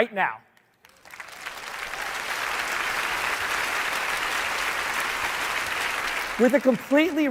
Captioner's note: applause